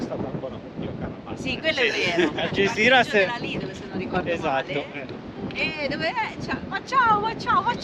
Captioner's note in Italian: risate